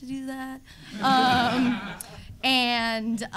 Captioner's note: audience laughing